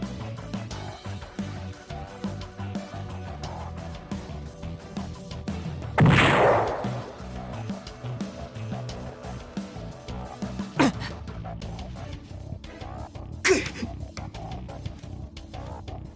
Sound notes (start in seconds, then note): 10.3 cough